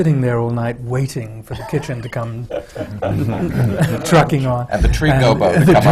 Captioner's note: laughter